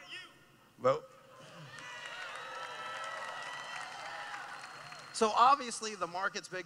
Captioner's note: cheering